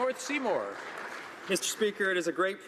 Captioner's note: some Applause